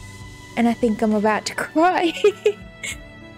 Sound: laughs in fully sobbing off-screen

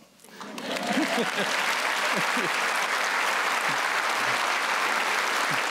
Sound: applause

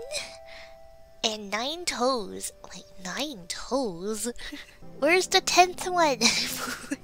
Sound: laughs

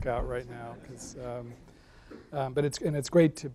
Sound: laughing

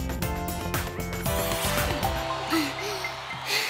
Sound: dance music; gasp

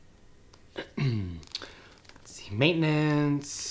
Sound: clears throat

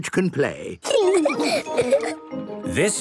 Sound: laughing

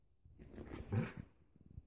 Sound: growls

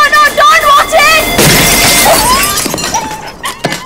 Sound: window breaking

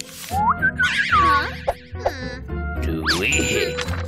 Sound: whistles

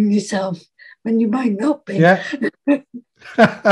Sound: laughs

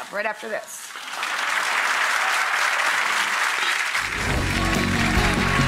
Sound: audience clapping; upbeat music

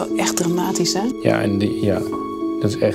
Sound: speaking Dutch

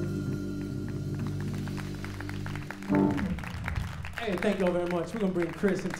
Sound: applause

